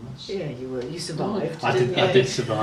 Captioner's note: laughs